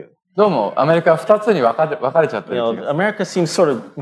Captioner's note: speaking japanese